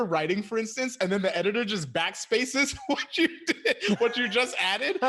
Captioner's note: laughs